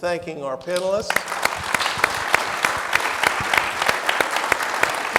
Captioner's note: audience applauding